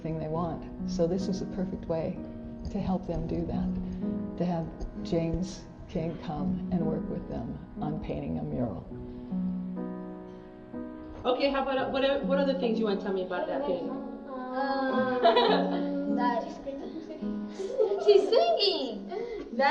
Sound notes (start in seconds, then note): 13.9 child laughs